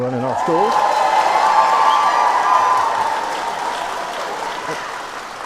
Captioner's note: cheering